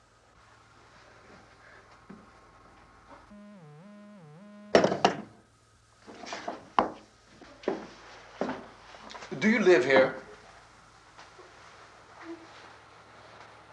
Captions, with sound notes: [ LINE BUZZING ] Do you live here?